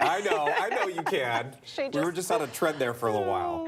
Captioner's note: laughter